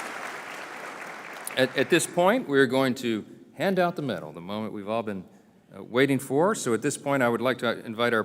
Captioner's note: applause